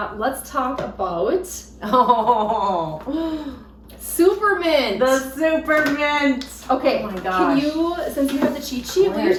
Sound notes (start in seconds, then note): 1.8 laughs